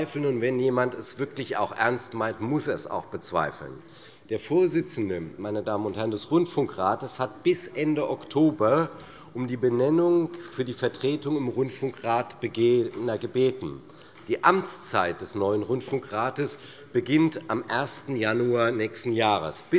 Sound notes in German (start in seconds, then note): none